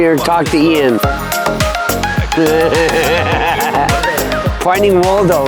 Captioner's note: laughing